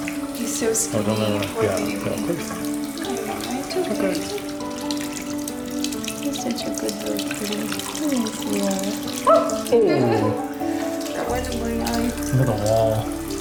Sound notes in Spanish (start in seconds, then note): 9.4 Grito; 9.8 Risas